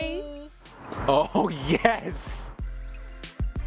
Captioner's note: male Voice; electronic outro music